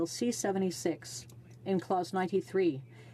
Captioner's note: speaking French